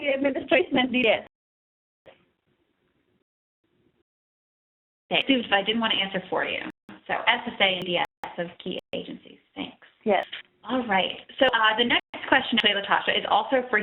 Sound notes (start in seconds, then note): 6.9 audio dropping